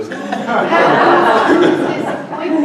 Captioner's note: laughter